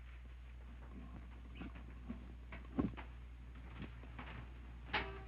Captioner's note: footsteps approaching